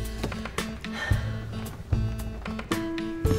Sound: smooches; sighs

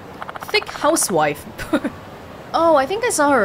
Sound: chuckles

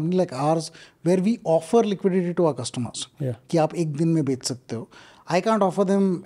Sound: speaks in Hindi

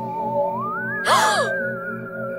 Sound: gasps

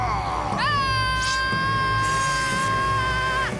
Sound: screaming

